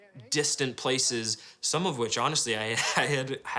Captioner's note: laughs